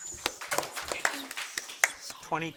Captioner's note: audience applauding